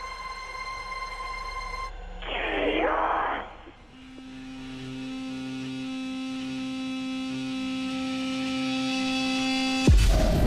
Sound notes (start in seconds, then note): 0.2 soft eerie music; 4.3 TV whooshing; 4.3 soft ominous music